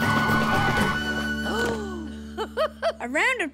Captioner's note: gasps and giggles